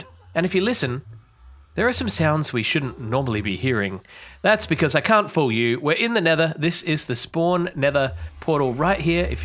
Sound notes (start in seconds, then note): 1.0 portal sounds; 3.8 ghast sounds